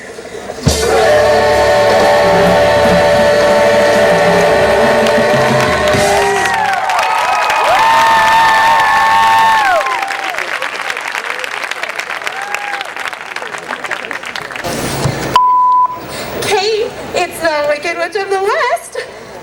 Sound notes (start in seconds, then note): 6.7 cheering; 15.3 beep